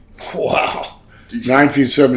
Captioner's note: chuckles